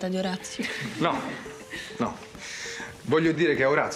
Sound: laughs

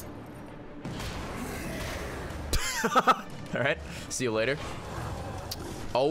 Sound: lauhgs

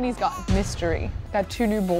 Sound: eerie thud

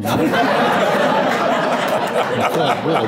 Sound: laughter

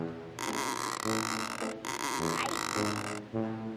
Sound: creaks

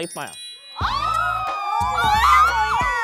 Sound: the crowd goes wild

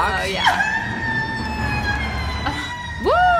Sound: KingBach cries; laughs

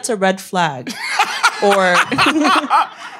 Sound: all laughing

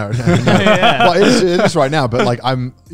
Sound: everyone laughs

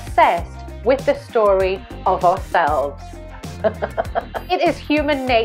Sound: laughs

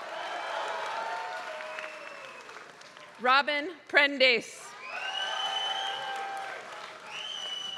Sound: applause; applause

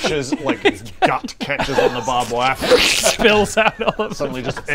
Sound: phrrsskfssffhssh

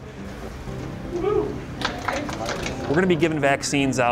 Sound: people applauding

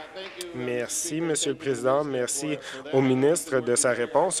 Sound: applause

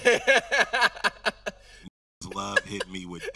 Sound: host laughing

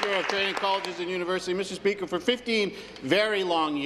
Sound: applause

